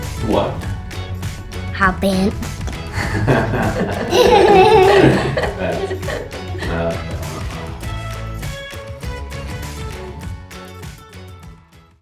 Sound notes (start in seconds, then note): 2.8 girl giggling; 2.8 man laughing; 7.2 upbeat music